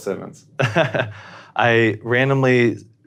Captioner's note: laughs